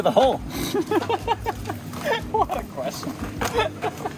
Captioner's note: laughing